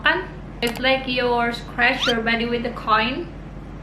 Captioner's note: scratch